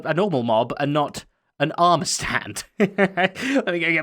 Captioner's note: chuckles